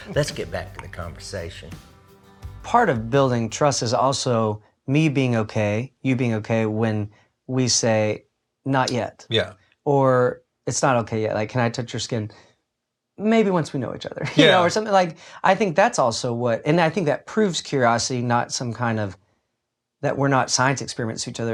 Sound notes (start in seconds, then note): 14.3 chuckles